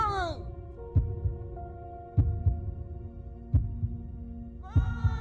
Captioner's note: loud heartbeat thumps; loud heartbeat continues